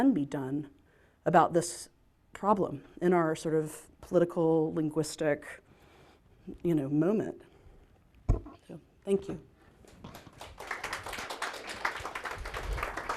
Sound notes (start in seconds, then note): 9.8 applause